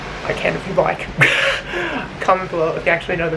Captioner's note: lols